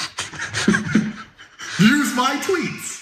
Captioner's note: laugh